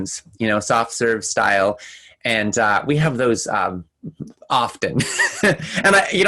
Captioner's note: laughing